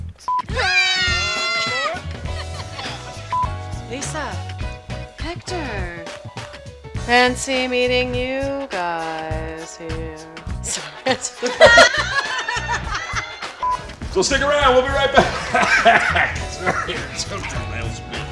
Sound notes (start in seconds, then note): 10.7 laughs; 11.0 laughter; 16.5 coughs